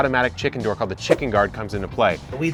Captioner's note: whooshing